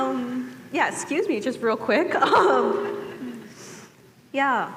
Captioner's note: laughs